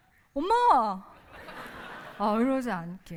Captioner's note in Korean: 웃음